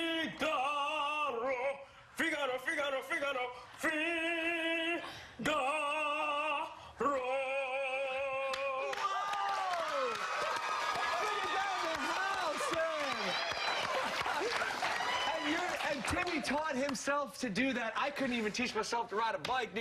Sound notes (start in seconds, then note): 12.7 cheers and applause